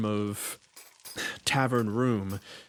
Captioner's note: sigh